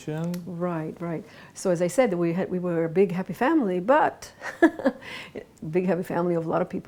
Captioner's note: laughs